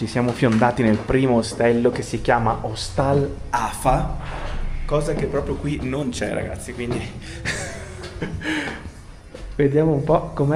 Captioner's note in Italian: risate